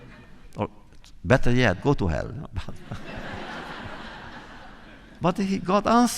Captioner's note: laughter